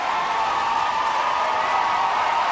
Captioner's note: applause